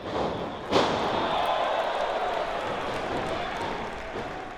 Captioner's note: crowd cheers